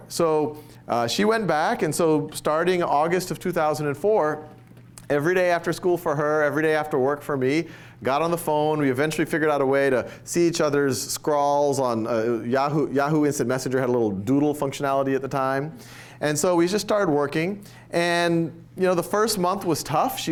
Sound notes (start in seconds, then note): none